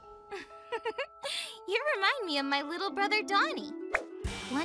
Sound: sleepily; Doc giggles

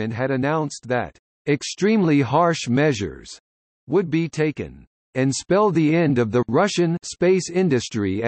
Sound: Russian

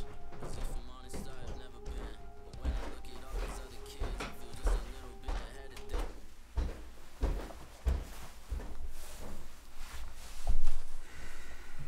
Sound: stomps up the stairs

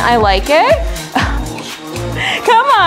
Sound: laughs

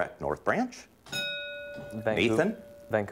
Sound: ding

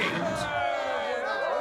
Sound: cheering

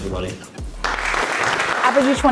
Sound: applause

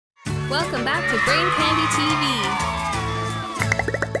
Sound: cheers

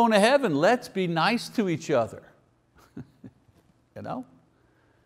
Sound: chuckles

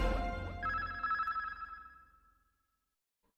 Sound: signals beeping

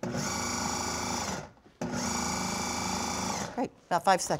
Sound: whirring

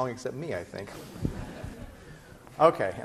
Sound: laughter

